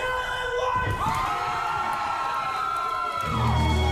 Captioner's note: cheering